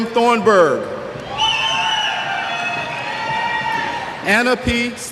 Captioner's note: cheers